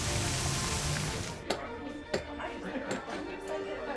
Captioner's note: people talking in background